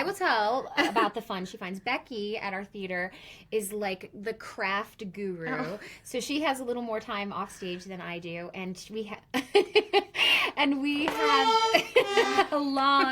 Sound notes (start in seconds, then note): 8.7 laughs; 11.0 plays accordion